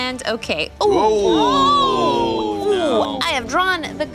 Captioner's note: gasping